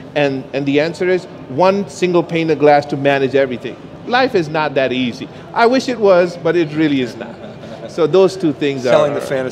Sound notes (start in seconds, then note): 7.2 laughs